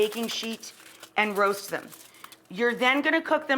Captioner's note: foil crinkling